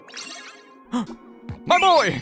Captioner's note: gasp